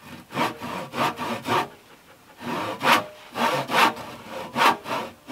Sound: saw rasping against wood

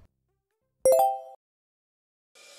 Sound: app activates

